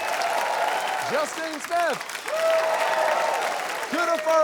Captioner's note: cheering, applause